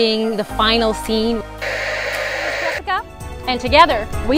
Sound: white noise

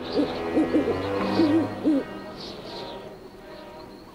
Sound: wind blowing

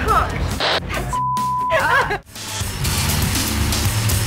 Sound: beep; upbeat rock music

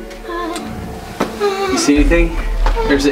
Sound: whimpering

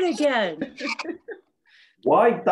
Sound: laughs

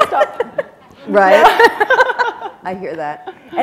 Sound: laughter

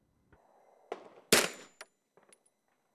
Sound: bang

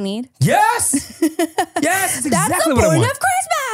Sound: laughs

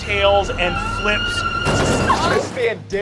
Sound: tires screeching

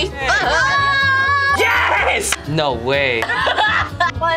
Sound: screams; laughs

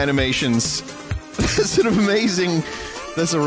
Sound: laughter

